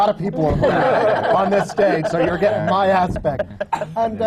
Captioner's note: laughter